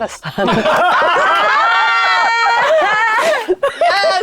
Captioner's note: players laughing